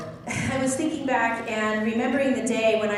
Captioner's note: laughs